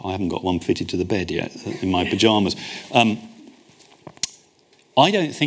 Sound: audience chuckles

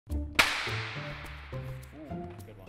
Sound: obnoxiously loud clap

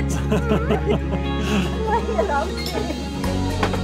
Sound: laughing

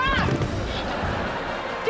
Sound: laughing

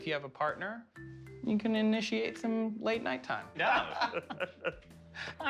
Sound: laughter

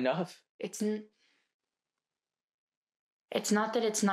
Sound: takes a breath

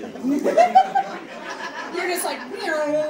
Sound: audience laughing

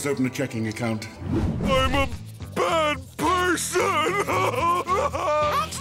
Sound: crying

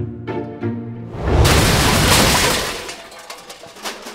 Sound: crashing

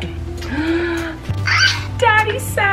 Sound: gasping

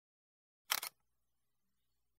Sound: shutter clicks

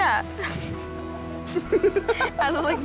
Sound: laughter

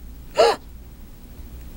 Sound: gasp

